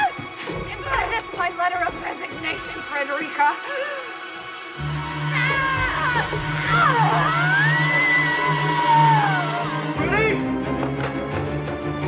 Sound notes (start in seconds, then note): 4.8 Freddie and Lillian struggling; 5.0 Lillian screaming